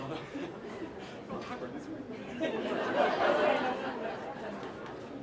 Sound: laughter

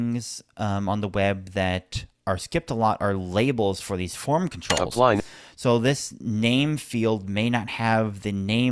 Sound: beep sound

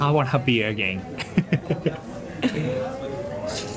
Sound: chuckles

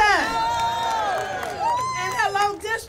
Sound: applause

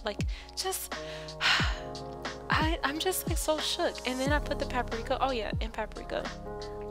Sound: takes a deep breath

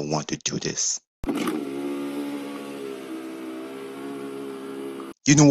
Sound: car Window Opens

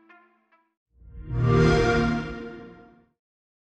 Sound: xbox sound

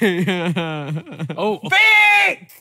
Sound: laughing

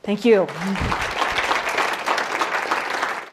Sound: applause

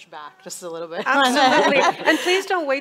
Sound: people laughing

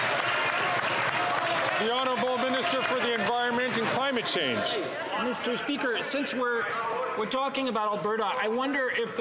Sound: some Applause

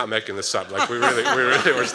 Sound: laughter

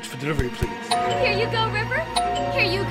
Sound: doorbell chimes

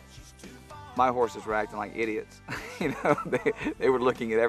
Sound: chuckling

